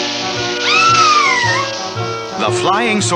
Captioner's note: Sweet Polly Screams